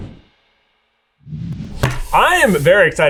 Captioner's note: logo whooshing